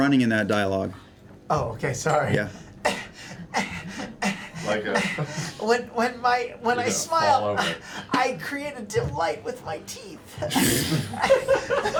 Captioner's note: panting